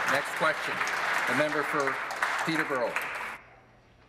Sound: applause

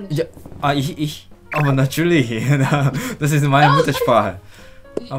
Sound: German

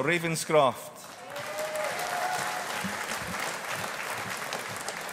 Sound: audience applauding

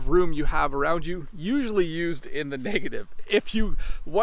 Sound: chuckles

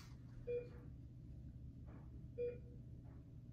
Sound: beeping

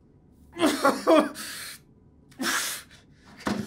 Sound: York sobbing

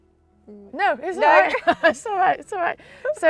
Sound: both laughing

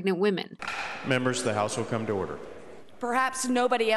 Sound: gavel

